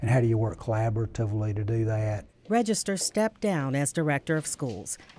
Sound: voiceover

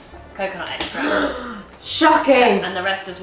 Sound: gasps

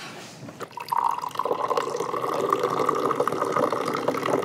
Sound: water pouring

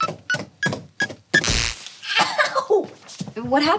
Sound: electronic sparking

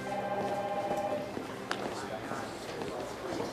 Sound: office hubbub

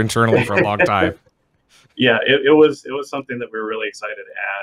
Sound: laughs

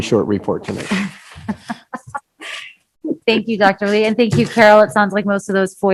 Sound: laughing

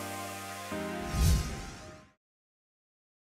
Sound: whoosh

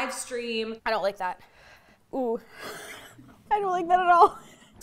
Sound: chuckles

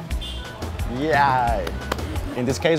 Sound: claps

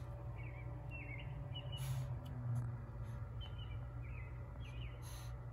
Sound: birds chirping continues

